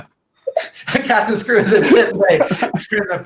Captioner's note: laughs